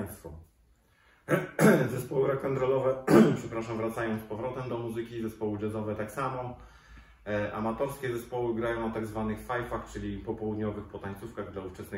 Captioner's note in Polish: chrząka